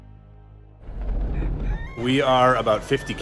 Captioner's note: rooster crows